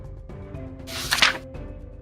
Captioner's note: page flips